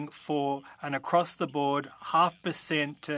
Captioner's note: speaking French